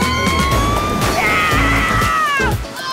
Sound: mom cheers

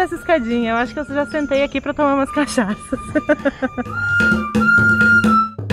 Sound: laughs

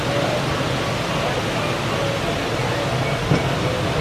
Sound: water splashing

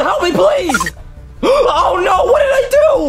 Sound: tone beeps

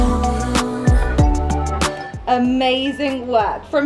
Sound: timer beeping

